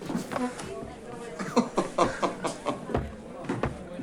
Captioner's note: Marcus laughs